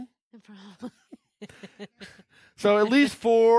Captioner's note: laughing